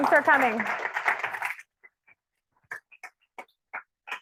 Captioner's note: audience applauding